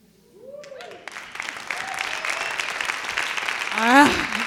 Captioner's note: applause